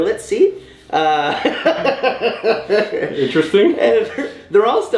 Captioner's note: laughing